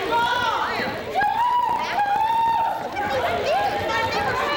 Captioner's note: wommen arguing